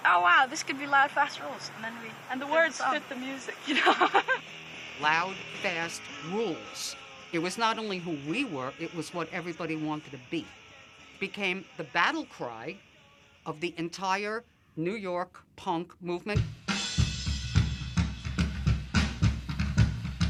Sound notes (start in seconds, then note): 3.6 risas; 16.3 musica rock